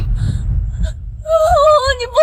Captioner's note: sobbing